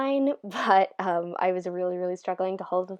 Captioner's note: laugh